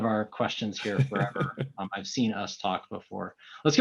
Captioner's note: laughing